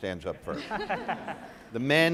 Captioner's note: audience laughs